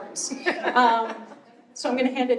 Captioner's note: laughter